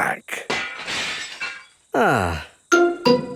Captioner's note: glass shatters